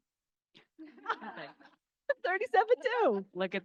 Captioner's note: crowd laughing